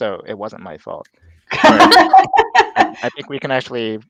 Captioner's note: all laughing